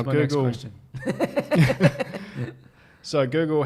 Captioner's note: laughs